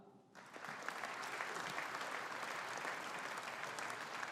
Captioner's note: audience applauding